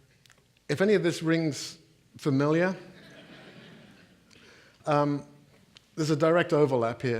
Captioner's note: audience laughing